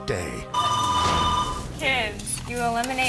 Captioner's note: fax machine ringing